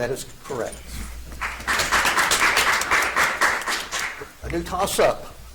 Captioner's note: audience applauds